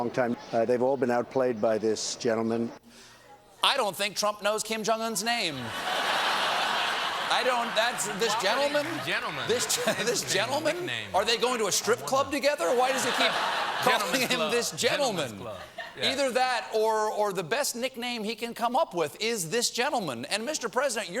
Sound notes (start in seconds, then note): 7.3 laughter